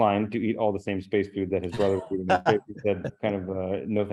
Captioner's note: laughing